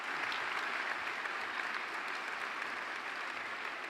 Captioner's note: applause